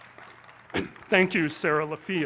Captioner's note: applause